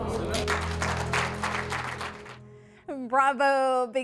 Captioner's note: applause